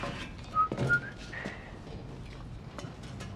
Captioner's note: whistling stops